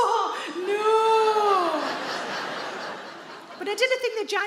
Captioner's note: audience laughs